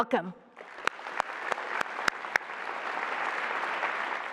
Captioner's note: applause